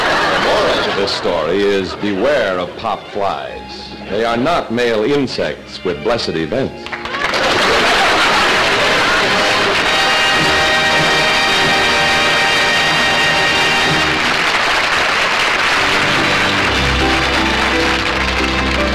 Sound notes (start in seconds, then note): 0.0 audience laughter; 7.2 audience laughter & applause; 9.7 applause